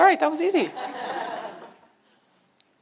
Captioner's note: laughter